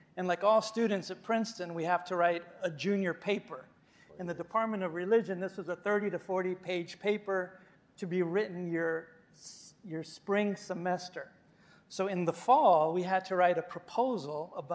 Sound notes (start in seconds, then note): none